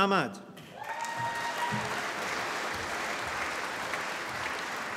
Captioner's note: applause